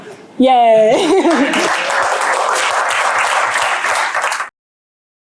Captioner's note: applause